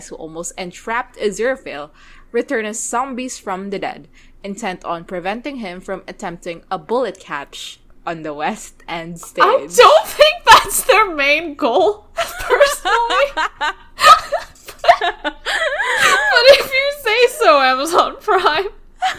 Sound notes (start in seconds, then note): 9.1 laughing; 12.2 both laughing